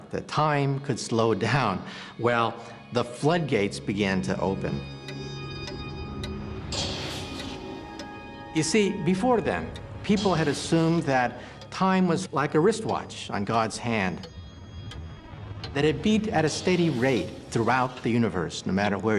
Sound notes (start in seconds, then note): 4.9 <i> clocks ticking</i>